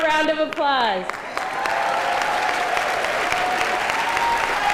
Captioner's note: applause